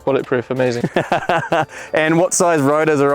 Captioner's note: laughs